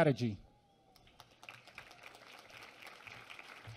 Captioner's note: applause